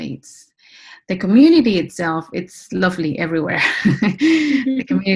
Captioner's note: laughs